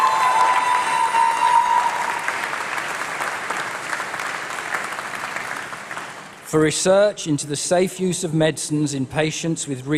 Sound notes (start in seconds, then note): 3.0 applause